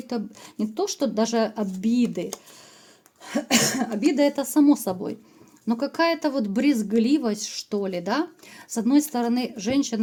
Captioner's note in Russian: откашливается